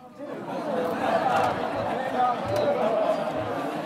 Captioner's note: laughter